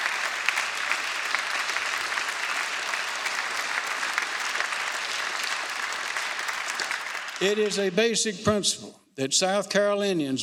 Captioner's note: applause